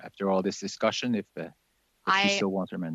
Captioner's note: chuckles